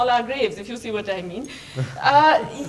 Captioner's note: laughter